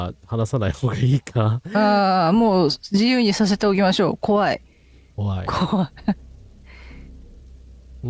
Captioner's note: laughs